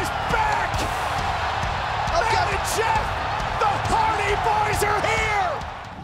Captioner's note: applause